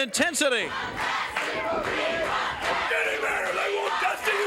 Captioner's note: crowd chants "We want Dusty"